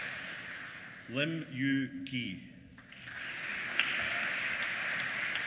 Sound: applause

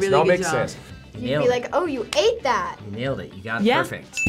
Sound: claps

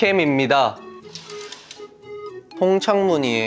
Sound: curtain opens

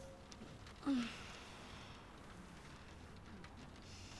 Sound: woman moans

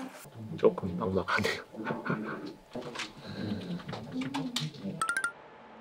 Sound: sighs

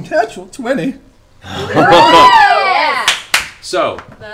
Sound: cheering

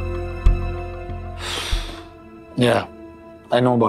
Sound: sighing

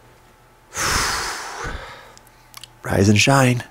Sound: exhales loudly

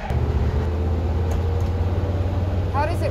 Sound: engine running

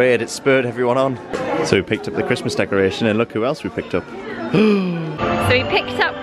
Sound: gasp

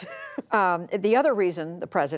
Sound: laughter

